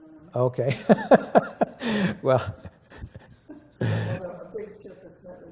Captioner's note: laughter